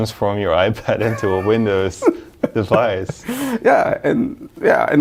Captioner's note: laughs